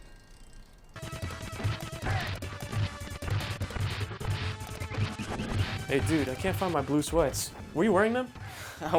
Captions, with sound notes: (upbeat music) (blows thudding) - Hey, dude, I can't find my blue sweats. Were you wearing them?